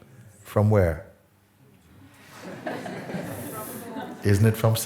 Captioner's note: laughter